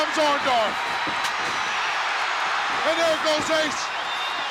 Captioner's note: crowd cheers